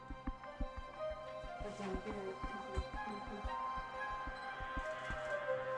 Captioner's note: speaking softly